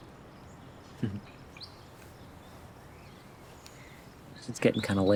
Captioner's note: Anthony chuckles